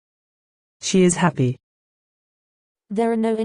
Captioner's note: simPODD voice